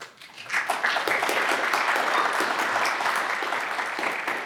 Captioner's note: audience applauds